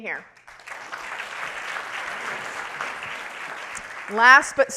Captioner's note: audience clapping